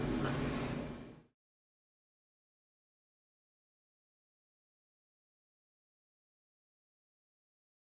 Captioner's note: silence